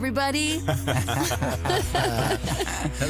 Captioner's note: laughter